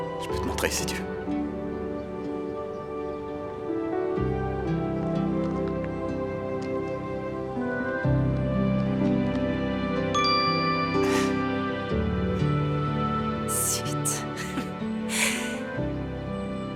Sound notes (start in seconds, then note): 4.7 soft music; 9.8 phone chimes; 11.6 chuckling